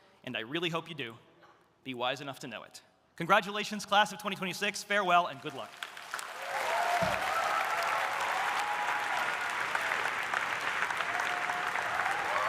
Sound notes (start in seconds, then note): 5.4 audience applauding; 6.2 audience cheering